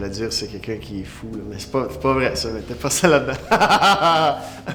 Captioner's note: laughs